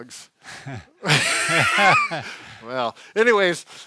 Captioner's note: laughing